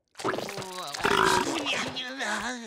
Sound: belching

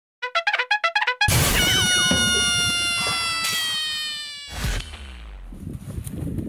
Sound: bugle playing; shooting sound effects

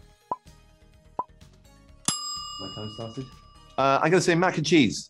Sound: timer dings

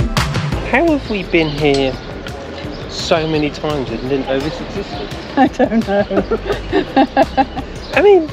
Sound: laughter

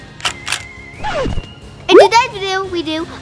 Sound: record scratching

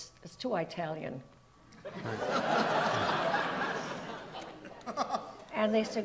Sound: audience laughs

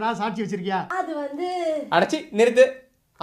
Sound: speaking slowly as she does not have any proof

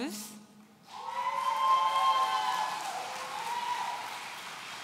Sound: audience cheering

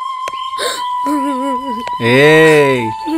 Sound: crying

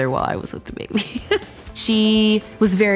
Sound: laughs

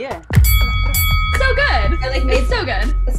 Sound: bells ringing

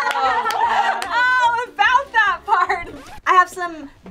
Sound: laughing; record scratching

